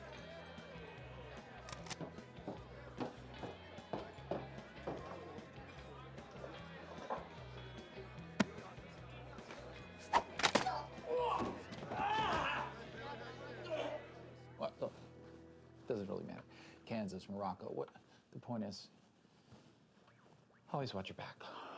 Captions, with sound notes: (groaning) Look, it doesn't really matter. Kansas, Morocco. The point is, always watch your back.